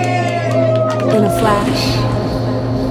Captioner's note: group cheering